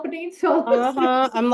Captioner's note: laughs